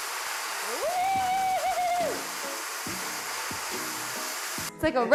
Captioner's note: machine whirring and thudding; screaming